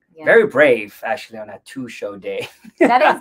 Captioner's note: laughs